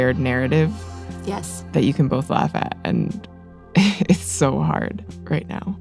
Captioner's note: chuckles